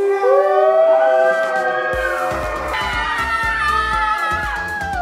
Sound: girls cheer

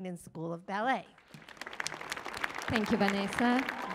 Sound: applause

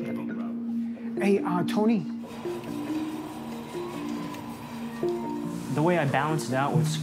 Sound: meat cutter grinding

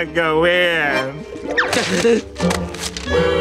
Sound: gasping

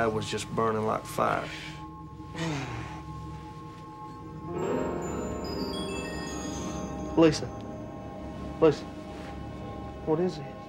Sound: breathes deeply

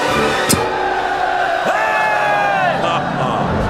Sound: cheering; laughs

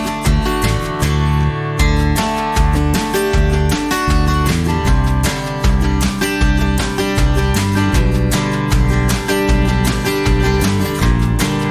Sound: clap

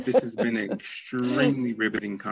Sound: laughing

